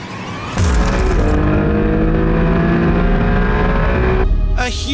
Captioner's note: engine revving